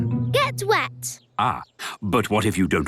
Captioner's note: none